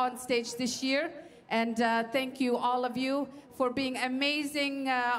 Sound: speaking French

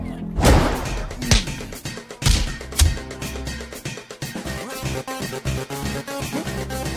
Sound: speaking in foreign language; kicks thumping; tense electronic music

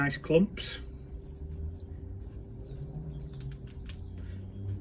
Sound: Tulbaghias shuffling; Tulbaghias crunching

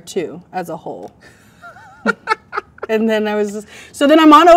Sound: man laughs

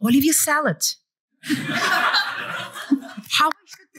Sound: laughter

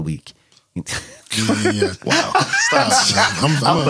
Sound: laughter

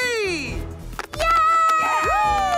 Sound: clapping

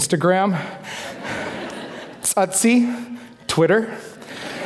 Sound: foreign speaking

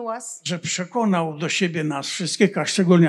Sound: foreign language

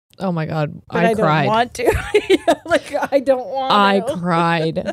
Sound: laughs

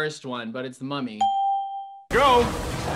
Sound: ding

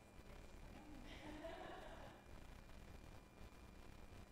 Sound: laughing

